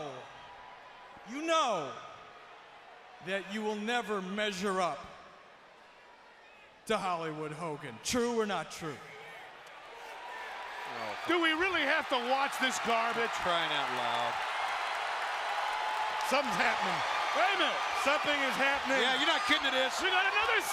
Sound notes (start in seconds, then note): 9.8 crowd chatter; 15.3 crowd cheering